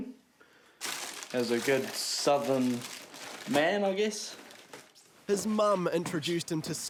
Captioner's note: packaging rustles